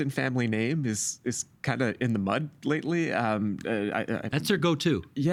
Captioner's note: stammering